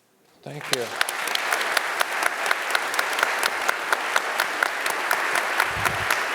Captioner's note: audience applauding